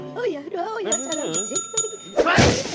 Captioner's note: bell rings